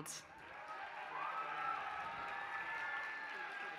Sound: applause

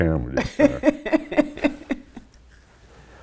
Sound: she laughs

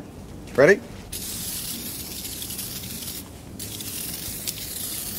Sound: can sprays

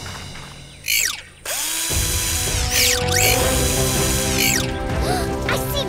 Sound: drill running

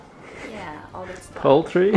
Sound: snickers; softly laughs

